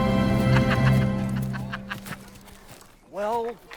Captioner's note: laughing